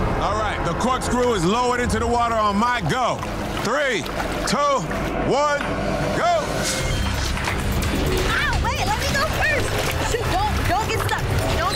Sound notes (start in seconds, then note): 0.0 ominous music; 6.6 digital beeping